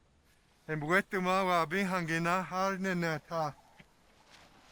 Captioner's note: speaking Tewa